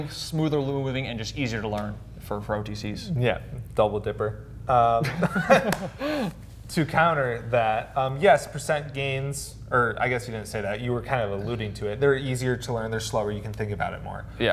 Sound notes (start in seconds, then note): 5.0 laughs